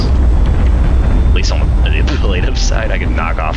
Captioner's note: laughs